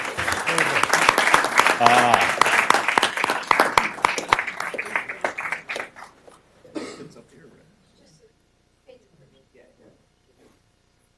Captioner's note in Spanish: Aplausos